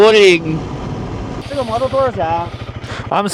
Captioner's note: speak in Chinese